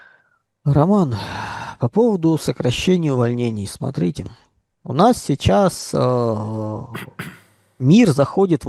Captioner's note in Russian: вздыхает